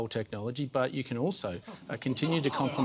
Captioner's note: light laughter